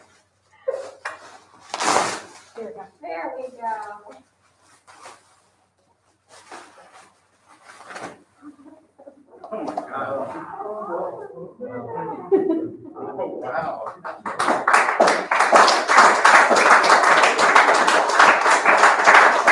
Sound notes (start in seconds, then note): 6.3 applause; 11.7 laughter